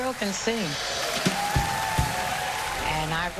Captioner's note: cheering and applause